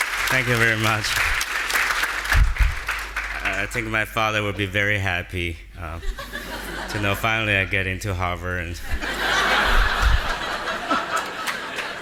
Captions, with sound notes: Thank you very much. I think my father will be very happy (audience laughing) to know finally I get into Harvard. (audience laughing)